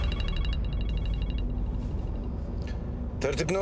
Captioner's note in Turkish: Telefon çalıyor